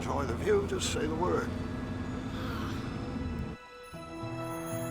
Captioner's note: Buttercup sighs